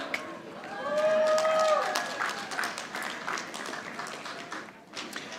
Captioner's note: audience applauding